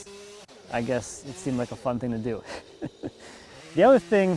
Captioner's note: laughs